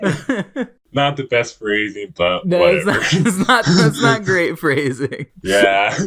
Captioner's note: both laugh; laughing; laughs